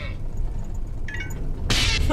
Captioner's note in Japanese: 通話が切れる音